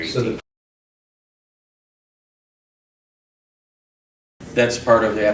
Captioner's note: silence